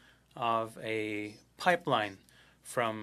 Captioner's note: speaking French